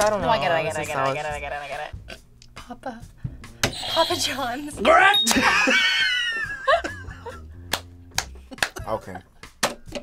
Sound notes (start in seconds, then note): 2.2 laughs; 5.0 buzzer rings; 5.3 laughs